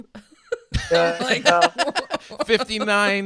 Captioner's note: laughing